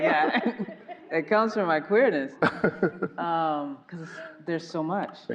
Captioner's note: laughing